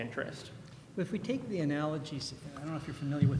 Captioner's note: voiceover